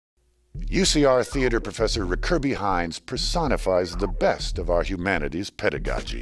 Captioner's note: voiceover